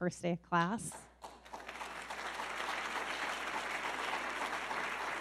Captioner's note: audience clapping